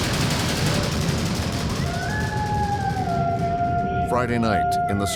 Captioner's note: howling